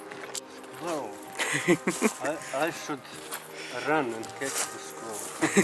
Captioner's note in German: Lacht